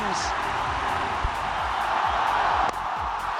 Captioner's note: crowd cheering